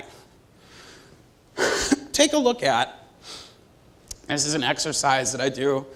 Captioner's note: cough